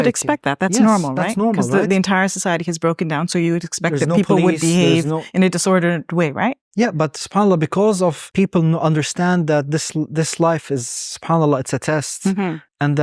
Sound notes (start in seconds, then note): 7.1 speaking Arabic; 10.4 speaking Arabic